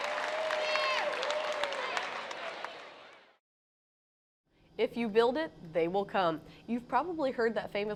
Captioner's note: crowd Cheering